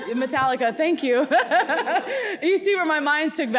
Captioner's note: laughs